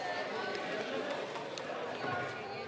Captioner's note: speaking French